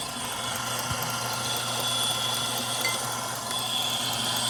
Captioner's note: grinding